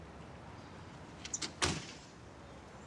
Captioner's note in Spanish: sonido al cerrar la puerta